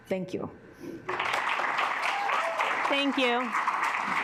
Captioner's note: assembly clapping